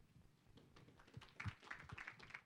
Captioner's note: applause